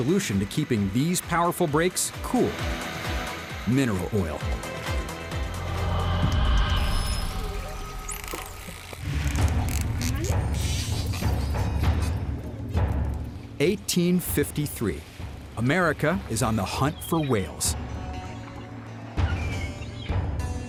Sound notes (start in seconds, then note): 5.2 whales vocalizing